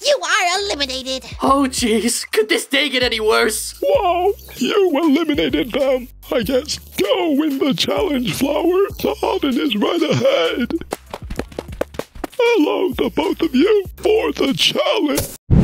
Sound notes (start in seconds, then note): 10.6 running